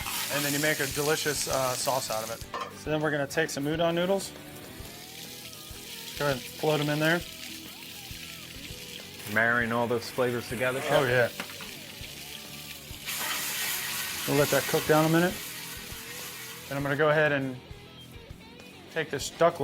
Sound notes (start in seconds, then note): 11.7 pan sizzling